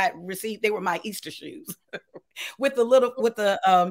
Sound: laughs

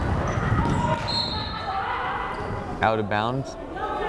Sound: whistle blows

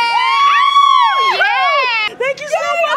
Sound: both scream

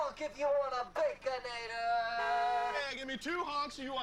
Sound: car honks one time

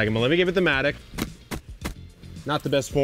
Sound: blade grates

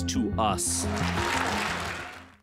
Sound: crowd cheering

